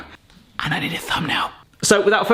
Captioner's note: whispers